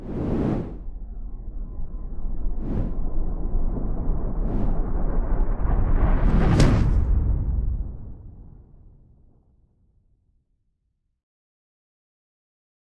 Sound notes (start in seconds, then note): 0.0 quiet whooshing; 6.6 loud whooshing